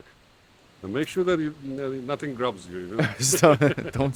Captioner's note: laughs